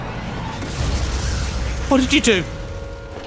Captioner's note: explosion rumbles